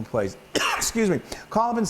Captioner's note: cough